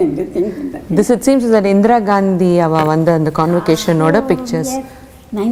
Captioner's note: in Tamil